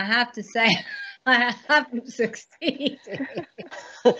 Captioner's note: laughs